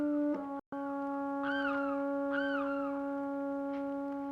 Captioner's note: birds calling